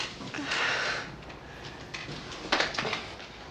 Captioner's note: Sarah sighs